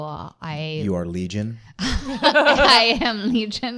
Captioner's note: laughter